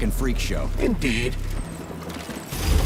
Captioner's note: beeping